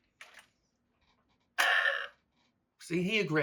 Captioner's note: burp